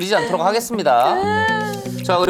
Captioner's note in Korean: 으어엉